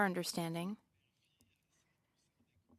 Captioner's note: speaking French